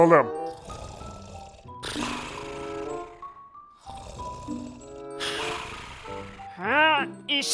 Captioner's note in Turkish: Horlama sesi